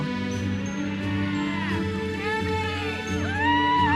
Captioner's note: audience cheers and applauds